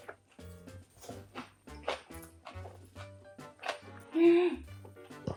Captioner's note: the sound of kimchi echoing through the house